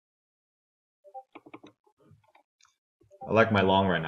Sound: computer beeps

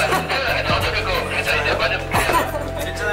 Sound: laughs

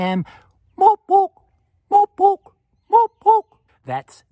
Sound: territorial owl sound

